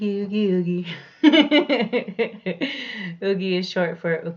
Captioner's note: laughs